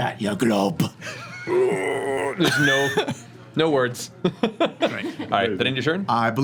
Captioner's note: groans